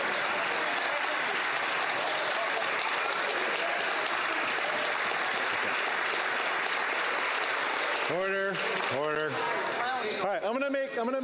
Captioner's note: TLYme Applause